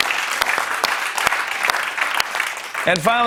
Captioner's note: applause